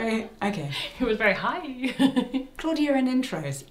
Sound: laughs

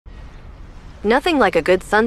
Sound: sound of river & birds chirping

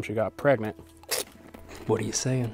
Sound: munching

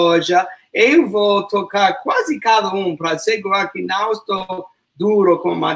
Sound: speaks portuguese

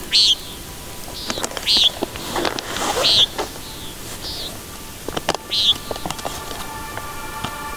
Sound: loud sound of hawks calling

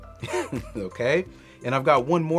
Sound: chuckles

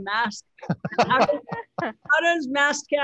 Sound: laughs

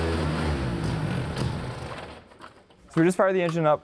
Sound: engine dying

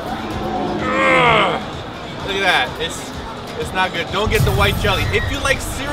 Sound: crash, girl screams

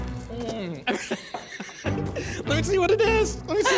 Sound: laughs

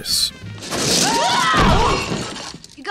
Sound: screaming

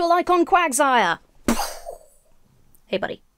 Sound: imitates explosion

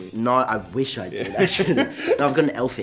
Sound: laughs

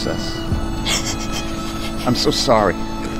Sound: emma sobs

